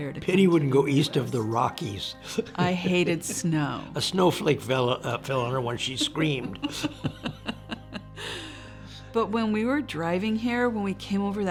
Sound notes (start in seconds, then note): 5.8 both laughing